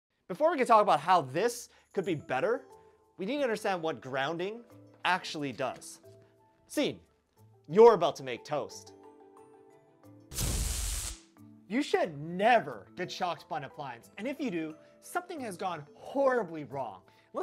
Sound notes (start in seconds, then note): 10.3 zaaap